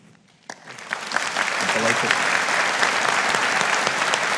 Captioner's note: audience applauding